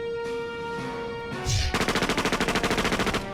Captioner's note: air whooshes; guns fire